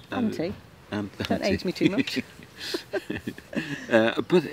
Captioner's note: chuckles